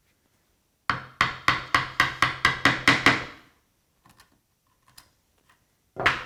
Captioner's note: mallet on chisel tapping